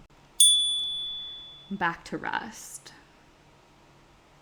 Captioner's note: chime